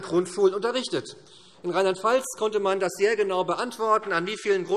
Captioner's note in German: none